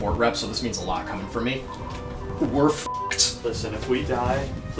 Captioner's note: beep